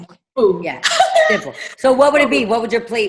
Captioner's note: laughs